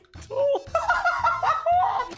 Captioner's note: giggles